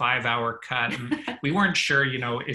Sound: chuckles

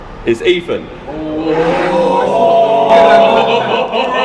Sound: jeering

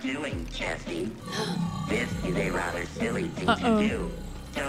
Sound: Sabrina gasps

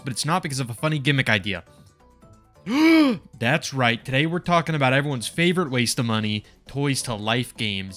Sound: excited gasp

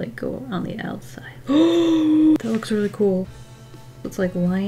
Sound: gasps

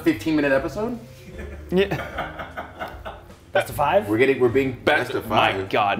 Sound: laugh

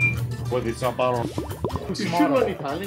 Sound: dripping; speaking in foreign language

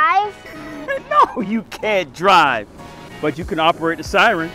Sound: chuckles

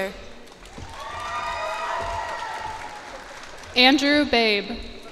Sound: cheers and applause

